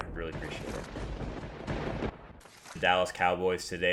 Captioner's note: lightening and thunder; paper ripping